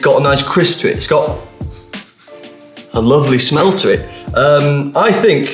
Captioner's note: sniffing